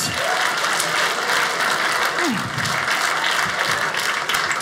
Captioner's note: audience applauding